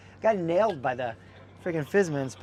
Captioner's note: laughs